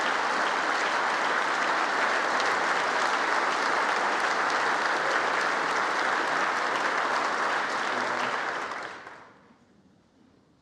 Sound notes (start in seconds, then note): 1.3 congress applauding